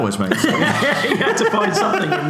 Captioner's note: laughs